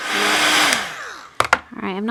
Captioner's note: heat tool whirs